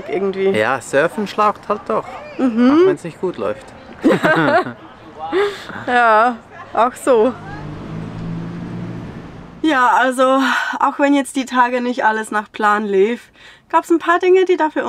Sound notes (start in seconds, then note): 4.0 laughter